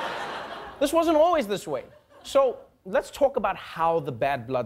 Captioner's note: laughter